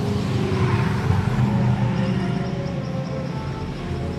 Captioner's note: Ferrari accelerating